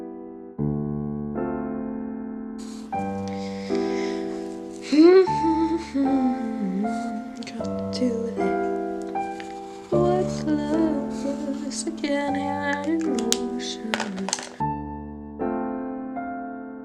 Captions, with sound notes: [humming/singing] Hmm hmm hmmmmmm got to do with it? What's love but a second hand emotion?